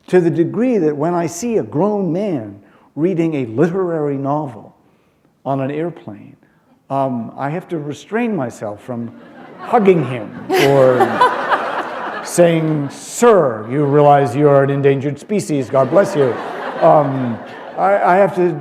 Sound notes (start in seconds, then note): 9.1 laughter; 15.6 laughter